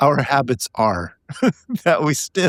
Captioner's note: laughing